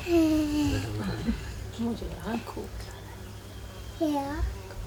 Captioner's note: child giggling; foreign language being spoken